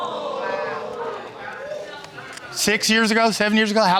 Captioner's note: audience exclaims